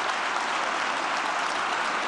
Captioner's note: applause